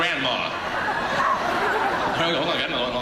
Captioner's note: audience laughing